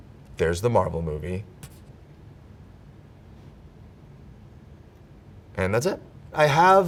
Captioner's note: silence